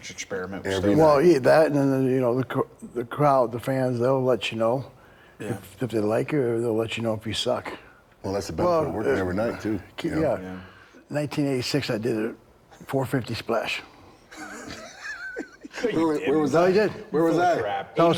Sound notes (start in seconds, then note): 14.3 Bron and Rick laughing